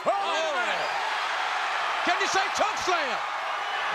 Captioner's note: crowd cheers